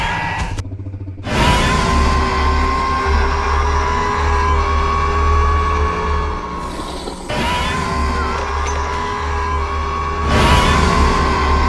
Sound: Scorpius roaring loudly

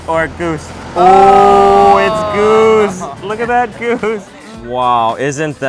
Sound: cooing

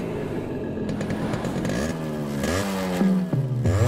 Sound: engine revving

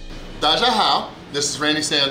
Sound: speaking in foreign language

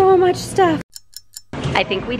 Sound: clock ticking

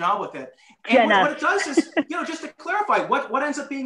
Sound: laughter

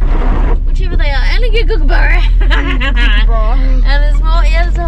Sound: cackles

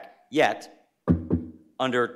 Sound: knocking on wood

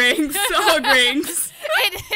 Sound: laughs

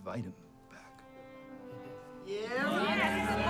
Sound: cheering

